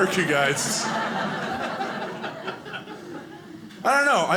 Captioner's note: audience laughing